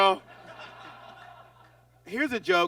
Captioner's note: audience laughs